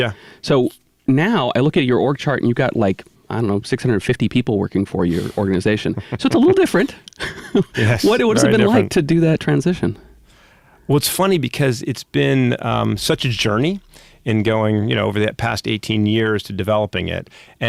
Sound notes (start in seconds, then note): 5.7 laughing